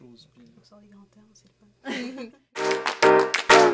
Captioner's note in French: rires